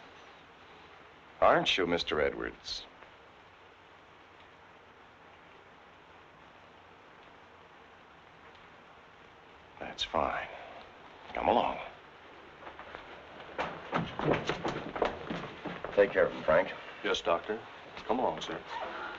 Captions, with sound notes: Aren't you, Mr. Edwards? That's fine, come along. (footsteps thumping) Take care of him, Frank. - Yes, Doctor, come along, sir.